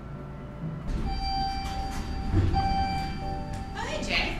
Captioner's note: elevator ring